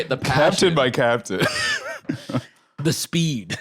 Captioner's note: laughs